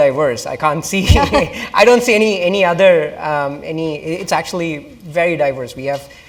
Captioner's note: laugh